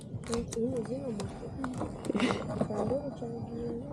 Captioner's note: background chatter in Kinyarwanda